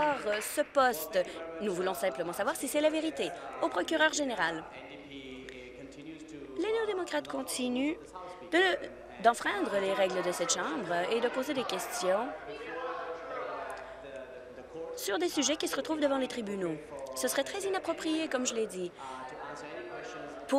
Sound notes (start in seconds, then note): 0.0 applause